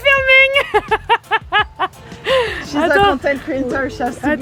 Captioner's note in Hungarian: nevetés